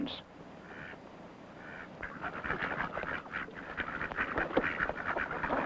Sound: duck sounds

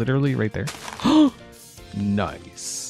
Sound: gasps

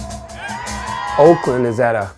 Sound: crowd cheering

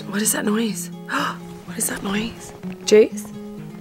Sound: gasps

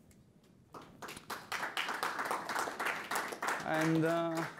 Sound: audience applause

